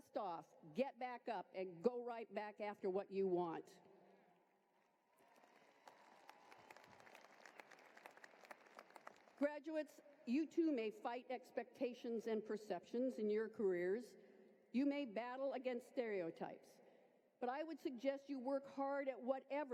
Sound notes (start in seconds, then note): 12.0 applause